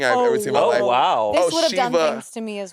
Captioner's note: beep